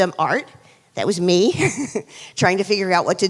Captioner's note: chuckles